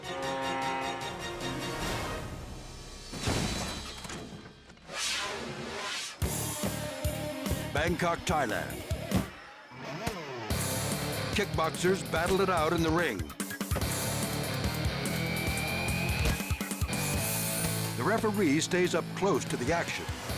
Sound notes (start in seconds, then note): 0.0 suspenseful music; 2.7 snowmobile clunking; 13.5 rock music